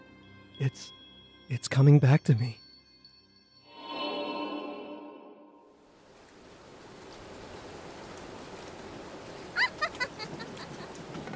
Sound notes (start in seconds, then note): 5.9 heavy rain; 9.5 laughter